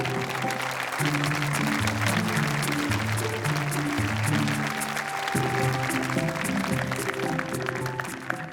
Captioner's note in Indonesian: Tepuk tangan